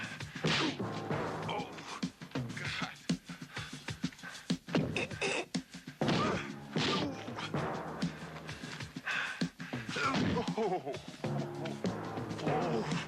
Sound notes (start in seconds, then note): 3.4 dramatic music; 6.0 fists thudding; 9.0 dramatic music; 10.9 foot thudding